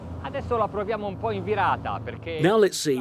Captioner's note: speaking in foreign language